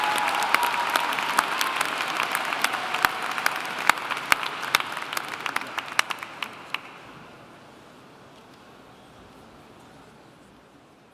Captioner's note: applauding